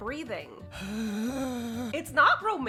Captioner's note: breathy groan